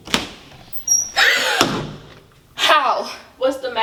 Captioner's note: gasps